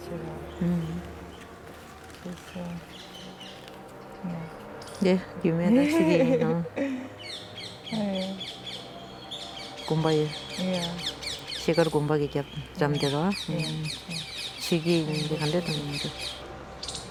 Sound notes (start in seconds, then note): 0.0 speaks foreign language; 11.2 birds chirping; 12.2 speaks foreign language